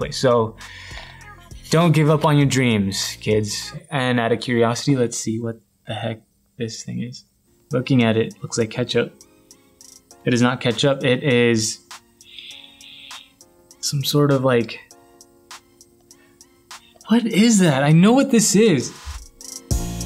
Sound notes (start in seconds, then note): 12.2 sniffs; 19.8 upbeat music